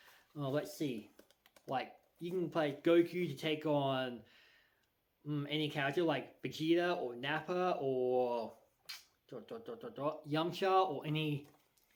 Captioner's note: smacks lips